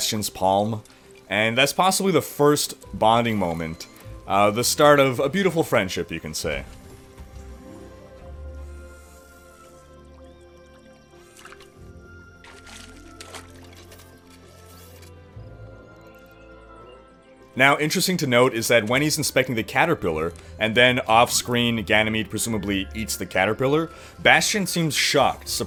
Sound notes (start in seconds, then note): 6.7 mechanical footsteps; 8.6 joints whirring; 12.4 fish splashes; 14.3 whirring; 16.3 birds chirping in distance